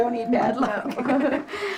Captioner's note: door bell rings